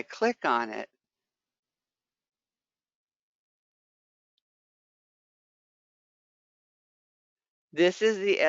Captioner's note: 5 seconds pause